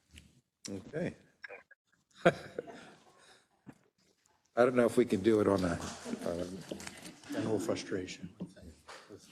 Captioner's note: laugh